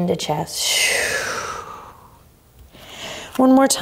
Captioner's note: sharply exhales